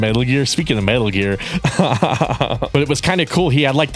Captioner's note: laughs